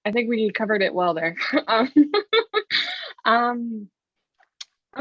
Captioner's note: laughs